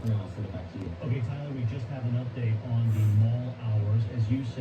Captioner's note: on TV